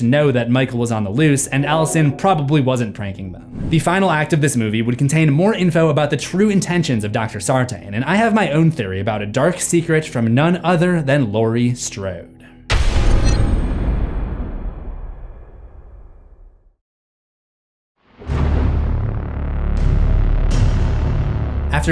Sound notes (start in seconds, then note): 12.8 thunder